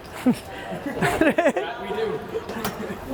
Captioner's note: Gary laughs